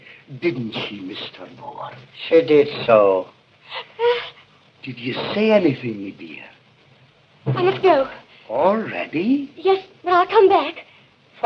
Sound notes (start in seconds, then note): 3.6 wincing